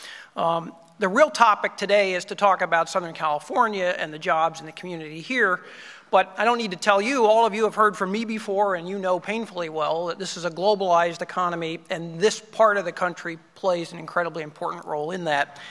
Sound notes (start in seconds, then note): none